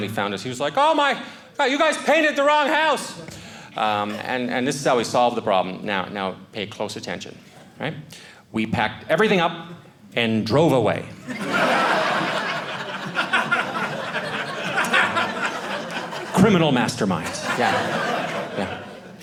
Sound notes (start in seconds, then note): 11.2 audience laughing